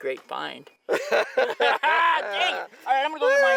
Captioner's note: laughs